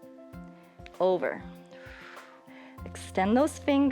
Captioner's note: exhales